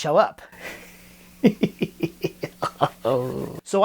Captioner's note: ominous Laughter